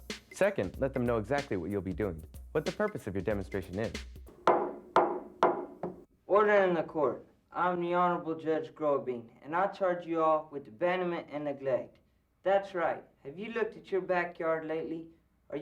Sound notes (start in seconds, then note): 3.8 gavel pounding